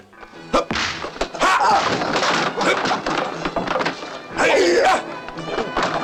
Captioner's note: men grunting